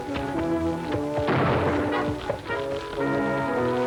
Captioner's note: gunshot